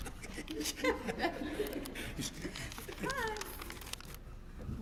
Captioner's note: laugh